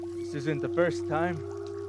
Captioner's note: birds chirping, conch shell horn in distance